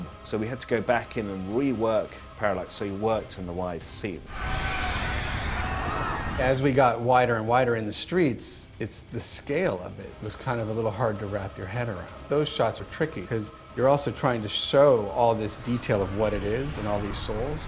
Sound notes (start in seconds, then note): 4.3 all clamoring